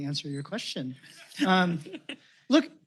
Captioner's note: laughter